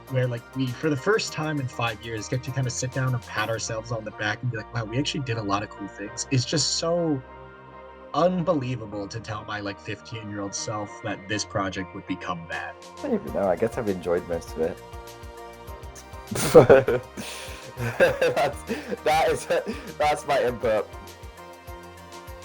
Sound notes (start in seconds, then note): 16.3 laughing